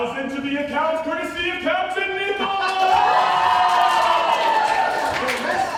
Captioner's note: cheering